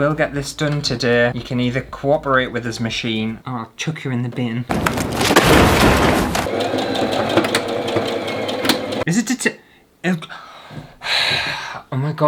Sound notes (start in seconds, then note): 6.3 sewing Machine Noises; 11.0 sigh!